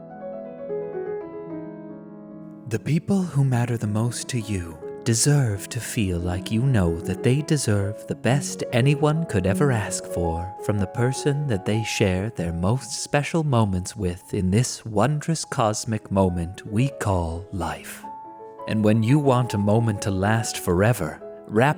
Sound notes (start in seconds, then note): 0.3 peaceful piano music; 2.8 voiceover